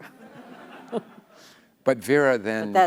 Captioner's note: laughter